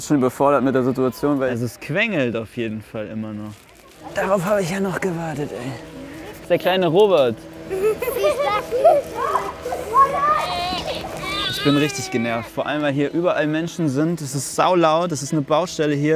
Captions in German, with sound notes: Ich bin mit der Situation überfordert. Es quengelt auf jeden Fall immer noch. Darauf hab ich noch gewartet. Das ist der kleine Robert. (Kinderlachen) (Baby schreit.) Ich bin richtig genervt, weil hier überall Menschen sind.